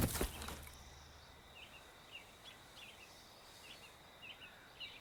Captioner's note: gun pounds; body thuds; crickets chirping